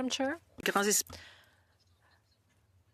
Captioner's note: speaking French